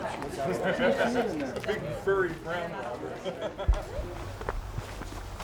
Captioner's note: sounds of group talking